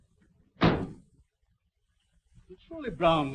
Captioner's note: car door slamming